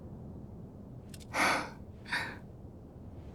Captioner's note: sighs